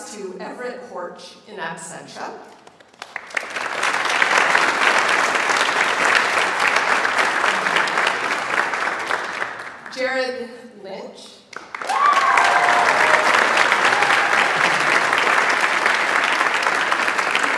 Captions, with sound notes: to Everett Horch in Absentia. (audience applauds) Jared Lynch. (audience applauds)